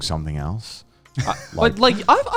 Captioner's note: laughs